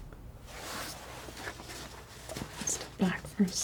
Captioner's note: scratching